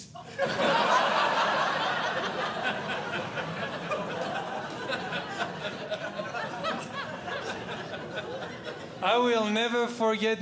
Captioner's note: audience Laughing